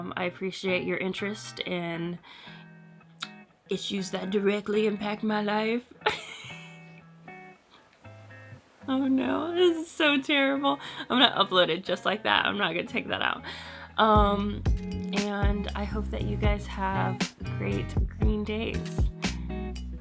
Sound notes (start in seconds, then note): 6.0 laughs